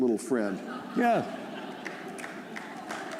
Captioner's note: laughter; applause